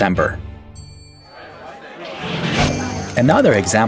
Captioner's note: crowd buzzing